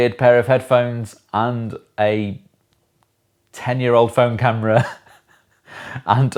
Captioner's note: laughs